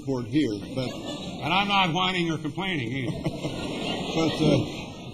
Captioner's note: laughter